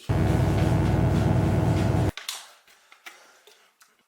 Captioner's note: electric buzzing